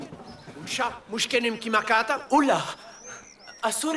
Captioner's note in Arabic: الصوت المنطوق البدوي